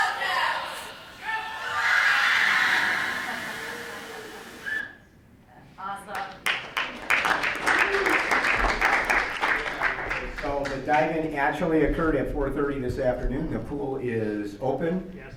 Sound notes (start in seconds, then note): 2.1 screaming and splashing; 5.3 laughing; 7.5 clapping